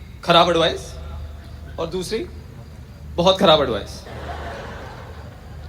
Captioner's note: audience Laughter